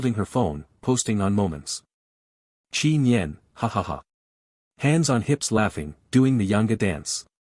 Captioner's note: hands on hips laughing